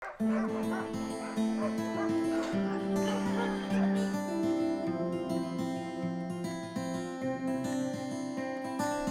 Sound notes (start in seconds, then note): 0.0 dogs barking; 3.8 uplifting music